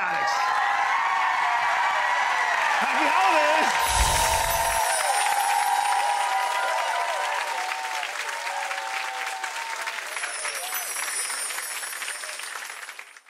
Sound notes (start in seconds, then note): 0.2 audience cheering and clapping; 3.7 bells chiming; 5.4 audience cheering and clapping; 9.8 bells chiming